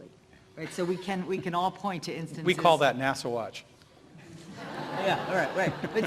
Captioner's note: laughter